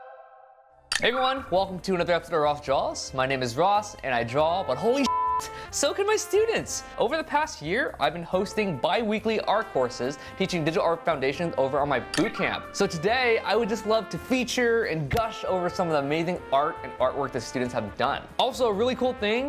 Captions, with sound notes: - Everyone, welcome to another episode of Ross Draws. My name is Ross, and I draw, but holy (beeps), So can my students, over the past year, I've been hosting biweekly art courses teaching digital art foundations over on my bootcamp. So today I would just love to feature and gush over some of the amazing art and artwork that students have done. Also a really cool thing.